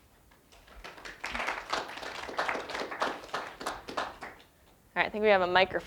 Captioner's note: applause